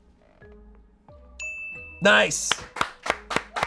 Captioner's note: bell dings; audience applauding